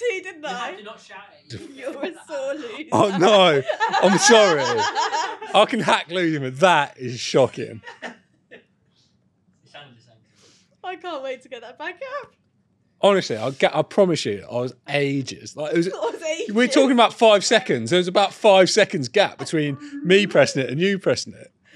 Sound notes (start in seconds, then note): 9.1 laughs